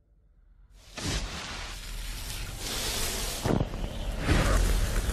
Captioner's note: flames crackling